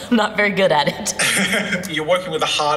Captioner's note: laughing